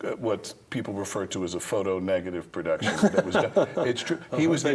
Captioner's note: laughs